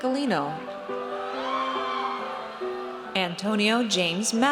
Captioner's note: audience cheers